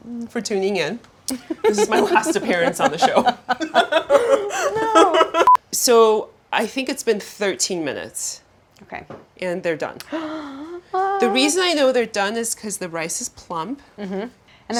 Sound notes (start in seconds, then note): 3.9 Claire laughing; 10.0 Claire gasping